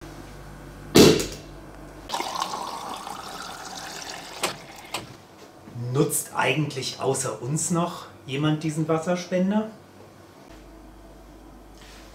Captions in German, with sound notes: [lautes Korkenknallen] Nutzt eigentlich außer uns noch jemand diesen Wasserspender?